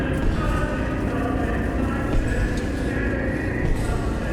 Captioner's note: footsteps echoing